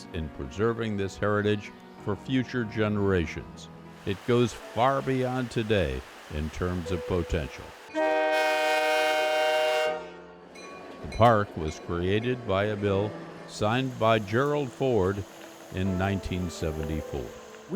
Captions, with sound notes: "in preserving this heritage for future generations. "It goes far beyond today in terms of potential." (horn wailing) (train rumbling) The park was created by a bill, signed by Gerald Ford, in 1974.